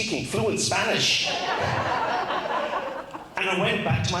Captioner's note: crowd laughs